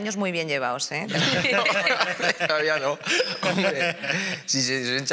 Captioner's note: laughing